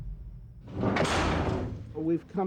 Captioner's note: door slams